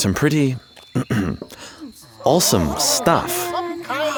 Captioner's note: clearing throat; crowd groaning